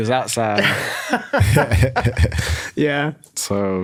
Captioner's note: laughs